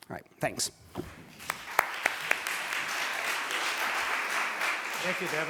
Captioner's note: applause